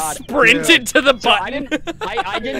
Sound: laughter

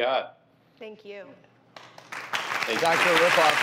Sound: applause

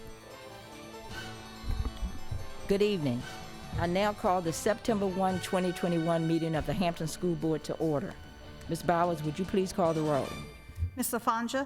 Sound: gavel

